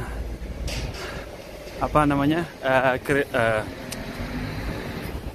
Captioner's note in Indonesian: hmmm